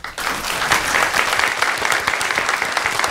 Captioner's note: applause